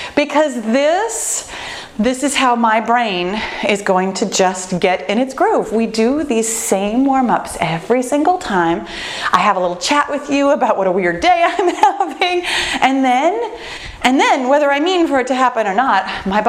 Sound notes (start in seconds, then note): 11.7 laughs